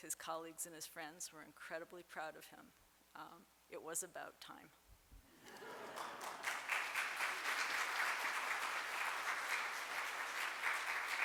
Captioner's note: applause